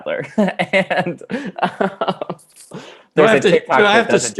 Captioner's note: laughing